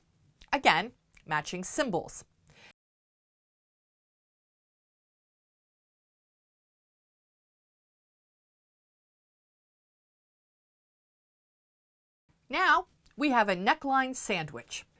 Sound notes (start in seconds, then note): 2.7 no Sound Present